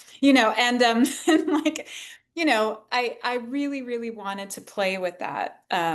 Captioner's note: laughs